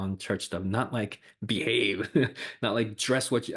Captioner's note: laughs